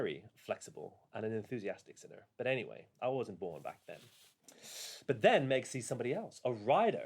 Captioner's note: breathes in